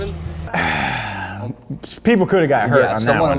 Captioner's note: sighing